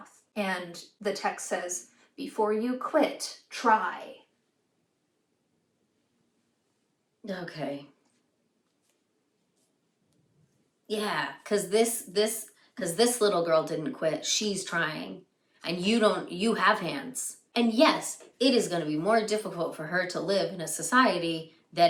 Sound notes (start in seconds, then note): 8.5 flatly